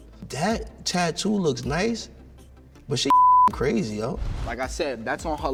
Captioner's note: beep